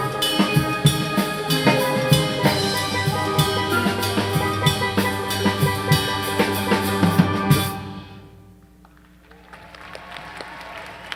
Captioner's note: applause